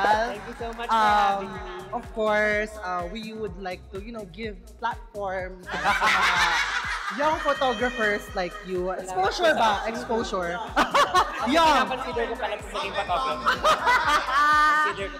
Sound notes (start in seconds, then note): 5.7 laughs; 10.4 laughs